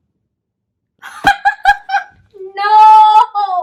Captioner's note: laughing very loudly